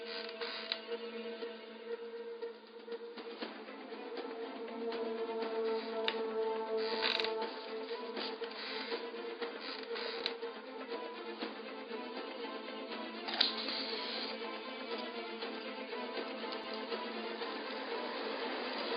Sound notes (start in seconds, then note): 14.3 fire crackling